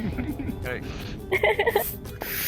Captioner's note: laughing